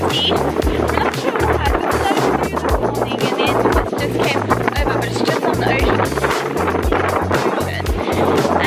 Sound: wind

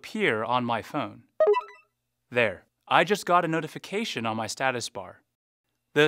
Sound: phone chime

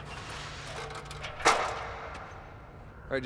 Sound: ladder rattles

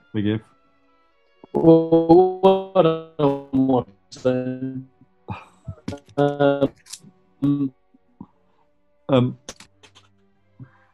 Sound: distortion

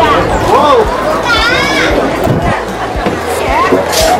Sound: people speaking in Chinese; child yells

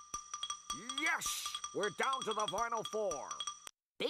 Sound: imitating Marv Albert

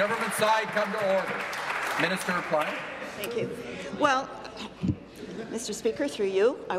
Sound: applause

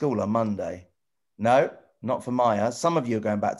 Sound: none

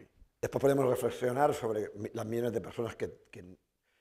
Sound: speaking spanish

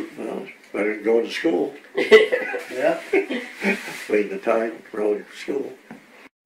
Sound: all laugh

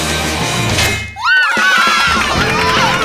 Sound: cheering

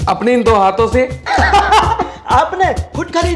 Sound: laughing

